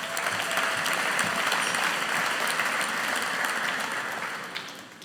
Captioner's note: audience applauding